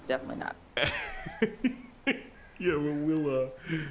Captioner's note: Mr. Machen laughs